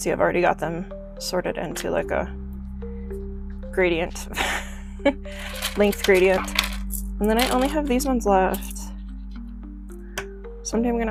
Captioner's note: laughs